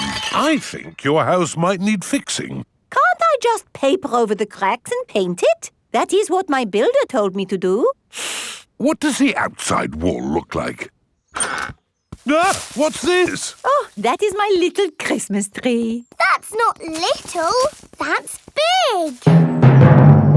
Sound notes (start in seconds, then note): 8.1 inhales sharply; 12.2 exclaims